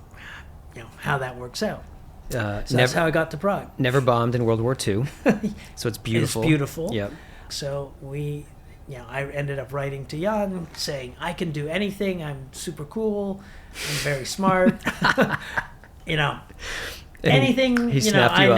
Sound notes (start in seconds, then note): 5.0 chuckling; 14.4 laughter